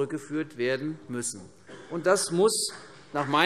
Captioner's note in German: Beifall vereinzelt CDU